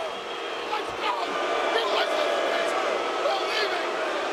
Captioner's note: audience jeering